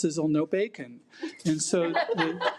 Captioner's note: attendees laugh